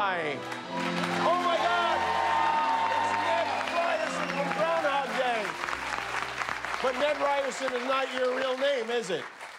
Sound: cheers and applause

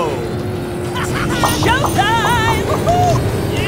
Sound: laughing

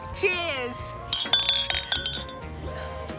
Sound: glasses clink

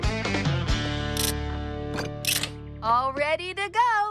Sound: upbeat Music; clicking

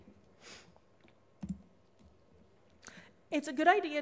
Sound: sniffs

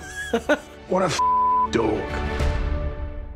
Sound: beeping

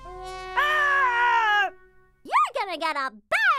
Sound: Chuckie screaming

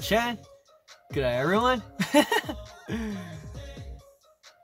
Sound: his giggle peak devastation

